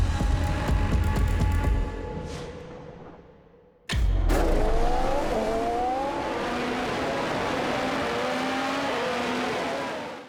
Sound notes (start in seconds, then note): 4.1 engine revs